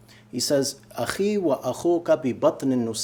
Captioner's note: speaking arabic